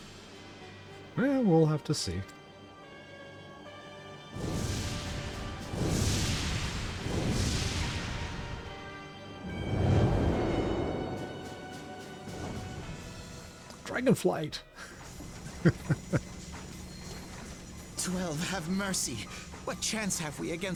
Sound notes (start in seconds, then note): 14.8 laughs